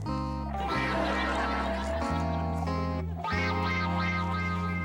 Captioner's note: audience laughs